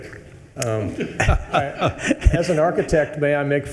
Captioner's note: attendees laughing